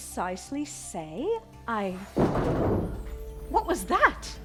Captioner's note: voices, footsteps, and crashes from outside